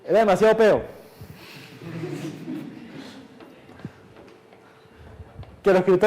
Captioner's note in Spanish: Clase ríe